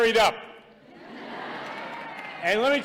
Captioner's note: laughter